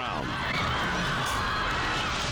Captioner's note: onlookers screaming